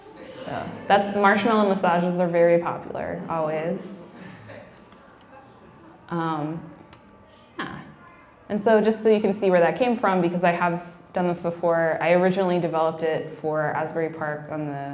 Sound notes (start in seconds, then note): 0.3 laughing; 4.1 laughing